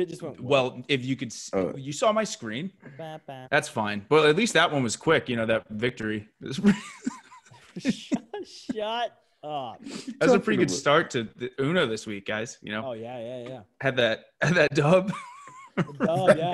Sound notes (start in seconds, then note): 6.6 laugh